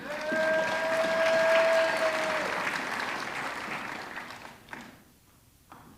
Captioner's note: audience clapping